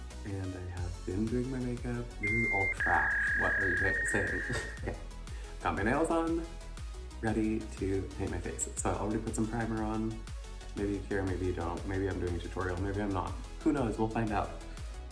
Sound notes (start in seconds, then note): 2.2 dial-up internet tone